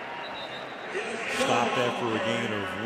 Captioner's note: whistle blows